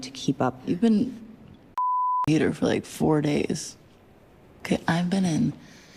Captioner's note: beep